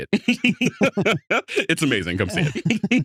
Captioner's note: laughing